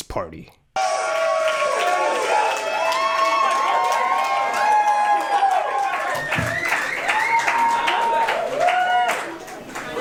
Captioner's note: crowd cheering